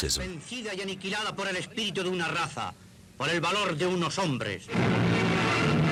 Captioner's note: man speaking Spanish in film